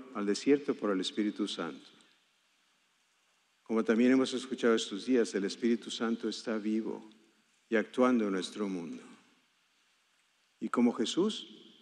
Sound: speaking spanish

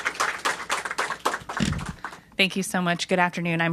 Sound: applause

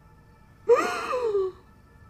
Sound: gasps

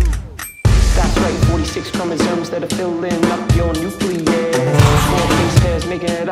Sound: aww

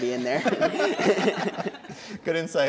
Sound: laughing

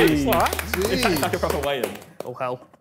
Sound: group claps

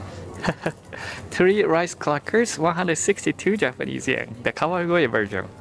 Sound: chuckles

